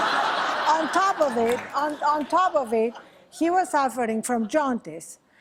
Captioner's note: laughter